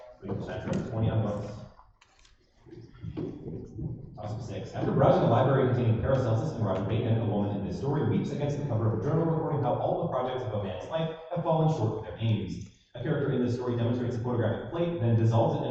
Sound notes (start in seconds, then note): none